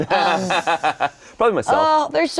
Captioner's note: Shayne laughing